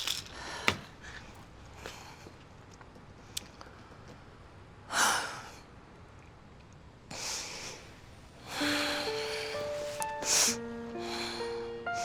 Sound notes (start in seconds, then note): 5.0 Kate sighs; 8.4 dramatic piano